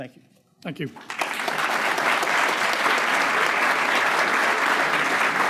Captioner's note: crowd applauding